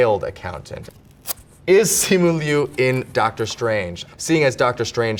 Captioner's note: paper rips